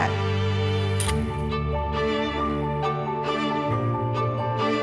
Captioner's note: shutter clicks